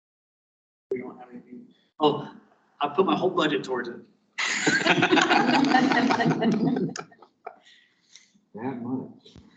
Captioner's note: laughter from room